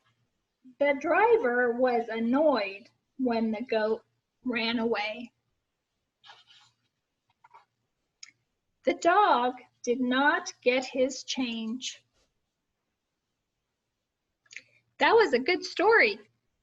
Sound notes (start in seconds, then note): none